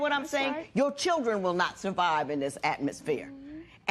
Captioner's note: none